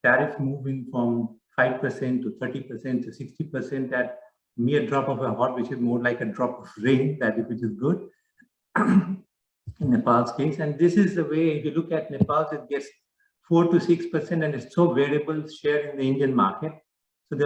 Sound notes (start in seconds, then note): 8.7 clears throat